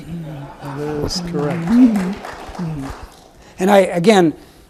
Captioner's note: audience applauds